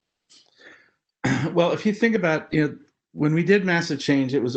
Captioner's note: cough